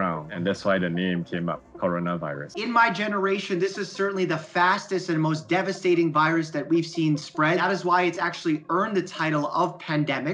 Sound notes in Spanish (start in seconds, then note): 2.2 hablando en inglés